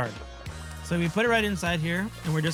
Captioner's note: pot sizzles